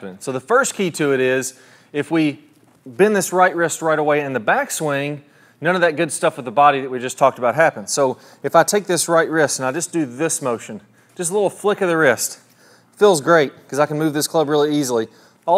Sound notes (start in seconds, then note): none